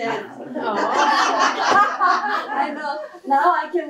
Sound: laughter

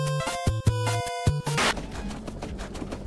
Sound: TV buzzing

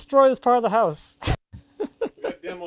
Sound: chuckles

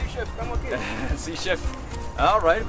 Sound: chuckles

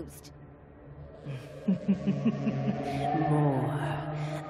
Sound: evil laughter

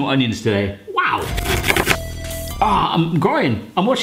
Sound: fast chopping

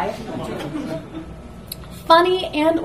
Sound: audience laughs

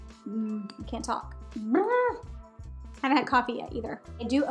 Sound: lips vibrating

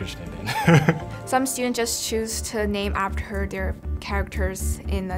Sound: laugh

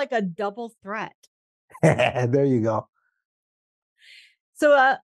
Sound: laughs

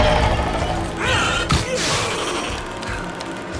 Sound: roaring; grunting; snarls

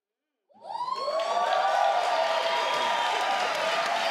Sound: crowd cheers

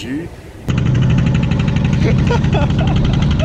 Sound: boat engine rumbling; laughing

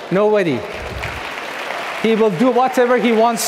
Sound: audience clapping

